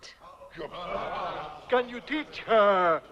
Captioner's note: chieftains murmuring